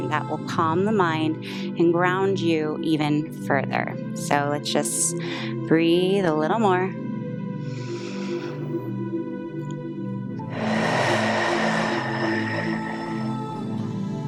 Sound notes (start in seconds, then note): 7.6 inhales; 10.4 exhales